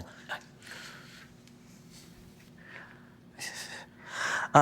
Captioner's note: Brian panting